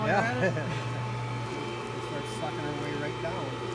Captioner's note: laughs